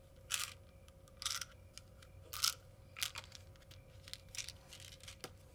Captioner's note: pills rattling